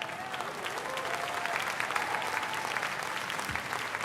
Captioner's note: applause